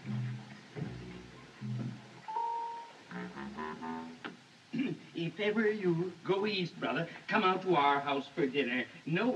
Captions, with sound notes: [ Clears Throat ] If ever you go East, brother... come out to our house for dinner.